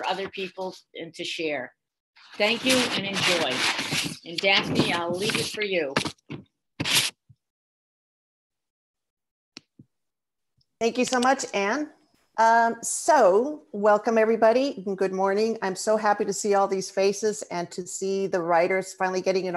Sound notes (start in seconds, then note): 6.9 silence